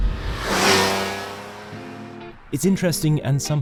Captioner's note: engine revs; bright music